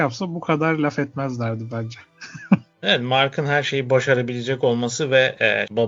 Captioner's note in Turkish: kahkaha